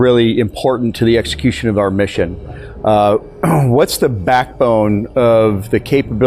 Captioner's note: clears voice